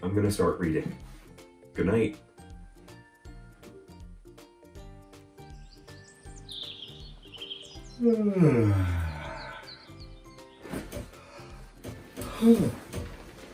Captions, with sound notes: I'm gonna start reading. Goodnight. (bright music) (birds chirping) (yawning)